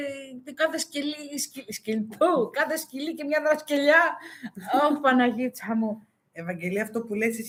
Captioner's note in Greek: γέλια